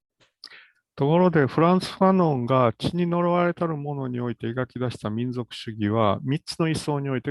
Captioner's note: speaks in Japanese